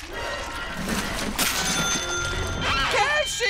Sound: ding

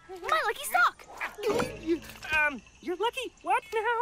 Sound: gulps

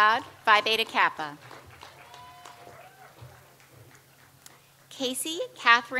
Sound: audience applauds

